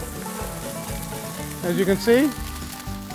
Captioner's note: skillet sizzles